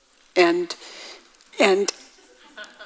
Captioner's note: audience laughs